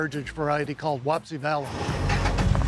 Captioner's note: engine revving